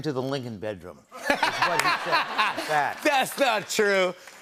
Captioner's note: laughter